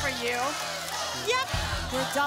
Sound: double chant

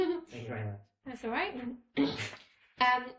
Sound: laughing

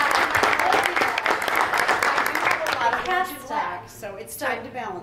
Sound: board applauds; speech drowned out by applause

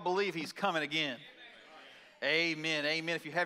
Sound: congregation chatters in assent

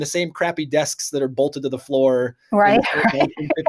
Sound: laughing

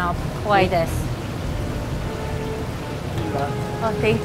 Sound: foreign language

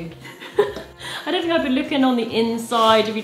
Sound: laughs

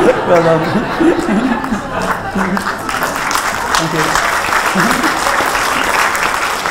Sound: laughter, applause

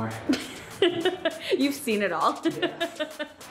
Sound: laughs

